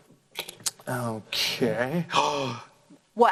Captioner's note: sighs